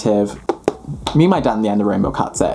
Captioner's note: hand patting